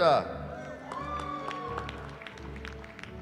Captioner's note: cheering